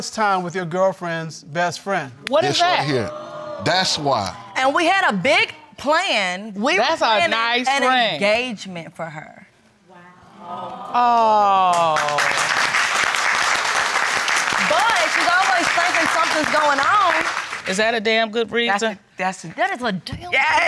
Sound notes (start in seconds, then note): 11.6 audience applauding